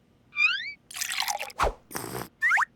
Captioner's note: slurps